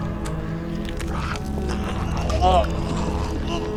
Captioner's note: groans